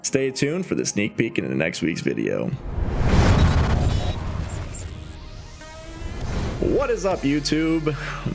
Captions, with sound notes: Stay tuned for the sneak peek in the next week's video. (air whooshes) (electricity buzzing) What is up, YouTube?